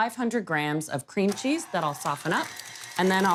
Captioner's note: mixer whirring